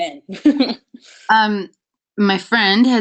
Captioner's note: laughs